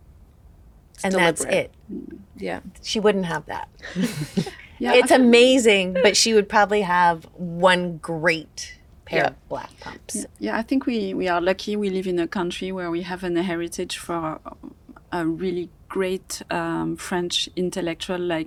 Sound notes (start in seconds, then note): 3.8 all chuckle